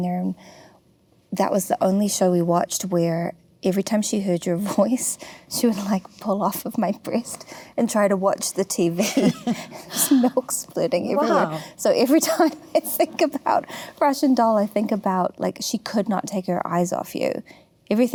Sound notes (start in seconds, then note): 9.0 laughs